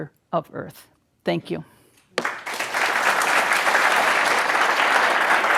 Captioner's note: audience clapping